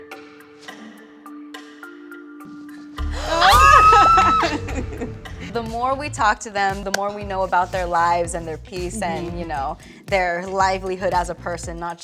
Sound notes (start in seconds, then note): 0.1 light suspenseful music; 3.2 laughs; 3.3 gasps